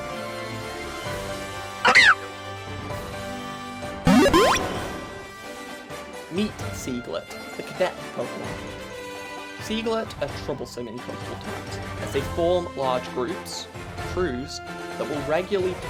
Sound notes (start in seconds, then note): 1.8 Seaglet's Cry; 4.0 Pokédex Loads